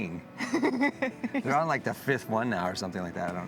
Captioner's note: laughing